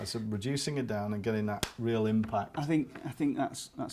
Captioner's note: slaps hands